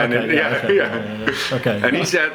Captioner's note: chuckles